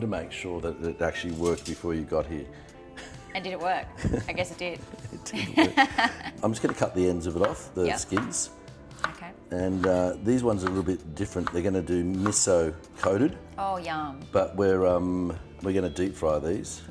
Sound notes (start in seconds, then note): 4.8 chuckles